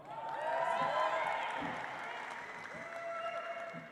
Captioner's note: audience applauds